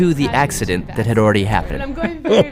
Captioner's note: laughs